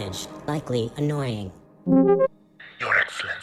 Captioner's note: transmission noise; hushed, speaking in tones of dire importance